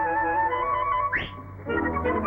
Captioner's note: whistles